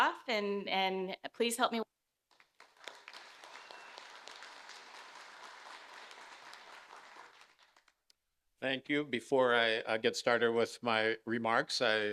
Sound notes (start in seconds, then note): 2.3 audience applauding